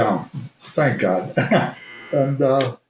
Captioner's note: chuckles